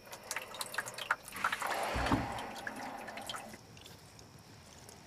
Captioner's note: water burbling